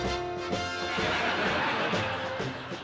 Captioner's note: laughter